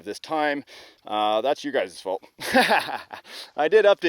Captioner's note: laughs